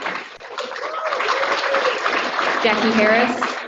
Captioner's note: audience applauding